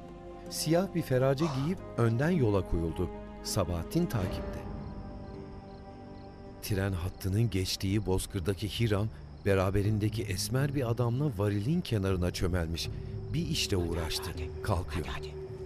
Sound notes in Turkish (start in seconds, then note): 5.6 Cır cır böceği sesi; 5.6 Müzik - Gerilim